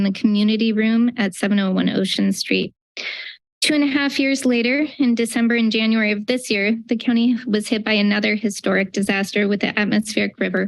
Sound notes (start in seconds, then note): none